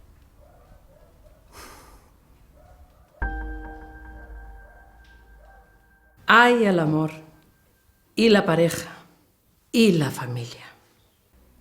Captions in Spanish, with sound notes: (Suspiro.) ¡Ay, el amor! ¡Y la pareja! ¡Y la familia!